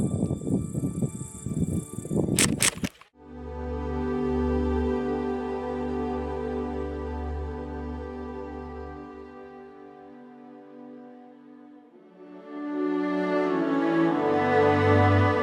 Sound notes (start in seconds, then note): 0.1 wind gusting; 2.3 camera clicks; 3.8 uplifting music